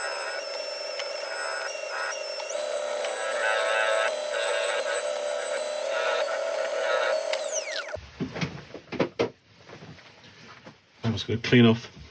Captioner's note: polishing and Sanding sounds